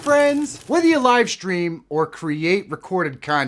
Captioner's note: water Splashing